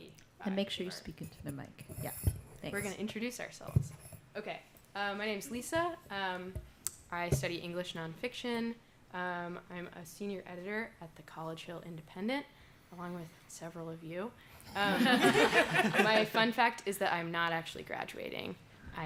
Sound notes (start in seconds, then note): 14.8 laughter